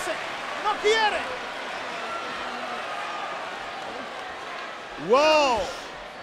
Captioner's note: applause